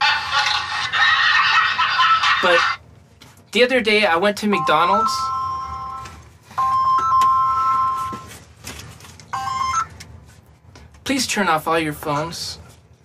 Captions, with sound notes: [LAUGHTER] But, The other day I went to McDonald's... [RING] [RING] [RING] Please turn off all your phones...